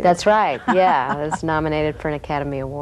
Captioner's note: laughing